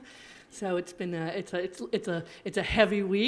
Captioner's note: stammering